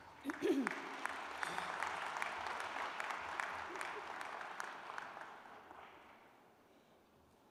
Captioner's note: applause